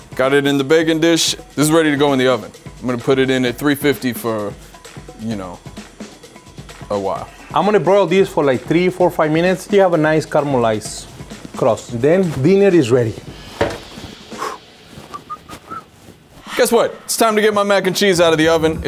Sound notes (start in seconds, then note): 15.0 whistles